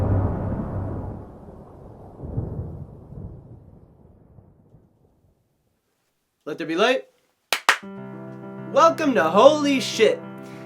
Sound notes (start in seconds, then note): 7.5 clap-clap